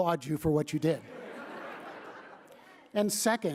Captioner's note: laughter